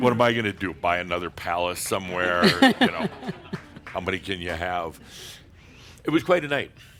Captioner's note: some chuckles